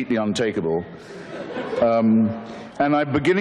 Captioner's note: audience laughter